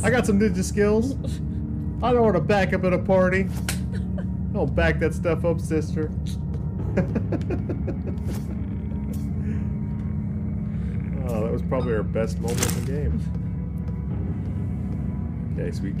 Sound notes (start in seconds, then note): 8.3 laughter